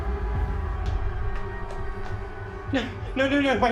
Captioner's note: footsteps continue plodding